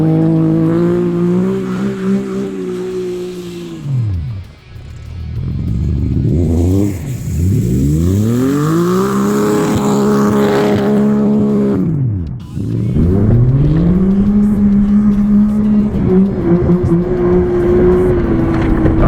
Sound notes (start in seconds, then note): 0.9 engine revving; 7.2 speaking foreign language